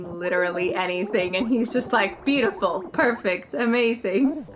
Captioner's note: laughs